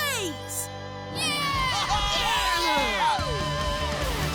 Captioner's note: cheering